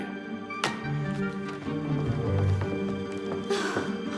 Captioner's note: foot stomps